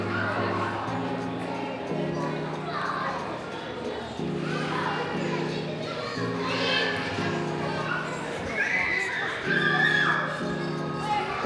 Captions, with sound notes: (children chattering) I'm gonna read it.